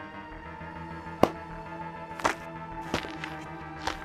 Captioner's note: smack